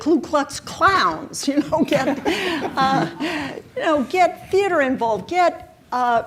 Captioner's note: chuckles